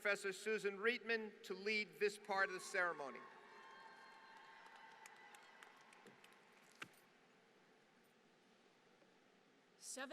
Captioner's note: applause